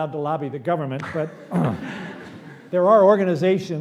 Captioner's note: laughter